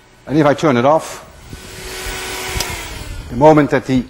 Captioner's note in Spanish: Aire hace clic apagado